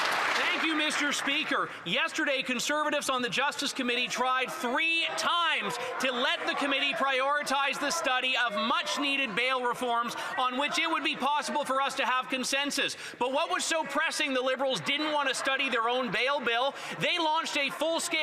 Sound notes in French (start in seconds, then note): 3.5 voix de l'interprète